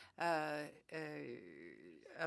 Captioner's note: speaking French